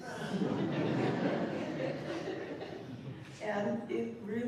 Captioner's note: laughter